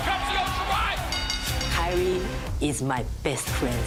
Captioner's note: bell ringing